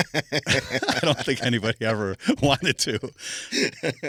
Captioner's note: both laughing